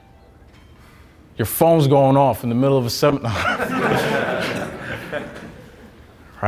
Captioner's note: laughing